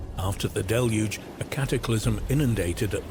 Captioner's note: waves crashing